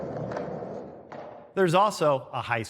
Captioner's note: skateboards rolling